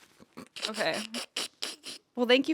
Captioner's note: Anthony laughs